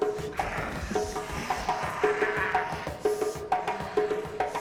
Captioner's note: snarling